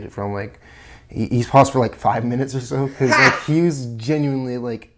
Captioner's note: cackling offscreen